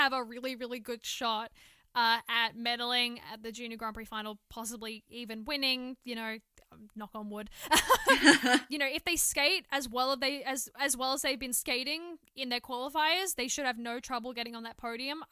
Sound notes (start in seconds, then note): 7.7 laughter